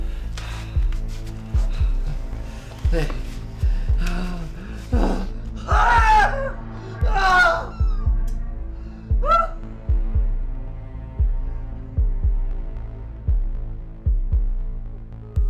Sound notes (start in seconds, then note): 5.7 threatening ambient music with pulsing rhythm; 6.9 screams of pain; 9.2 painful, loud wailing